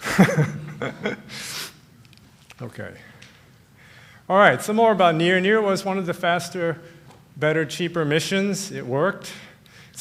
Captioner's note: laughter